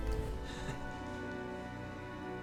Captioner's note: chuckles